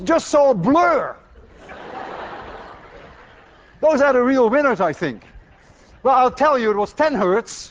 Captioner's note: class laughs